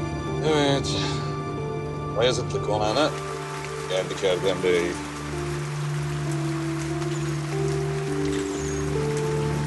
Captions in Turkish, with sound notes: Evet... ...Bayazıtlı Konağı’na geldik Erdem Bey. (Yağmur sesi)